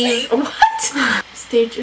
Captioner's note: laughs